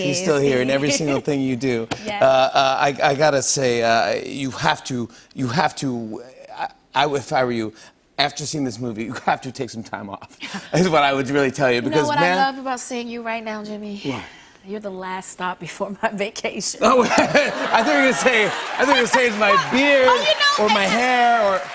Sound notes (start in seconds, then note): 16.8 laughter